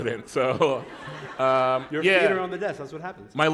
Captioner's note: laughter